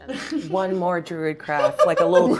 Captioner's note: laughing